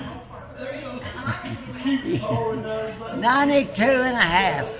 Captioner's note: laughs